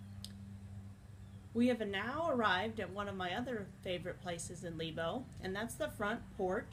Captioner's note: nature sounds of birds chirping and insects buzzing around